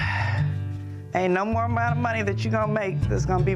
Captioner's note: sighing